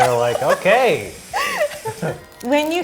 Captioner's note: laughing